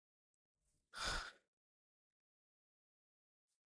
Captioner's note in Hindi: गहरी सांस लेने की आवाज़; अचानक ज़ोर से सांस लेने की आवाज़